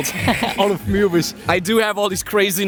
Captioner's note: chuckling